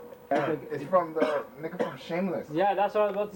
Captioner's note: coughing